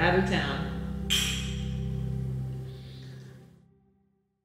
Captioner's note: glasses clink